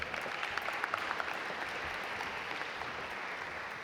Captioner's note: audience applaud